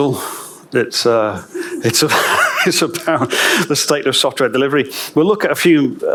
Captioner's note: chuckles